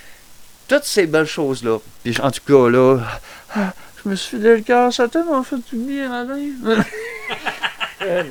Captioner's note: sighs; laugh